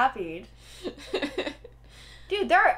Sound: laughter

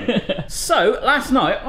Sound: laughs

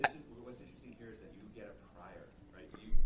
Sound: voiceover

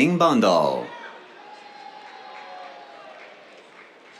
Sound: cheers, applause

